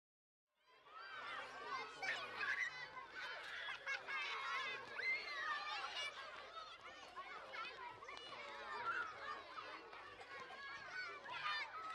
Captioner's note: sounds of children playing on the playground